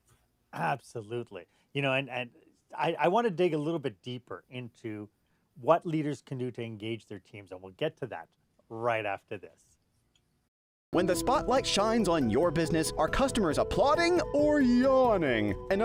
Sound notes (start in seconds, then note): 10.4 voice-over